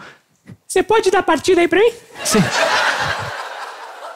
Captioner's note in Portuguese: voz fina